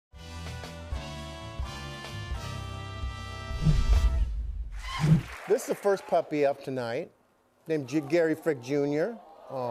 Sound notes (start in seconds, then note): 4.8 cheers and applause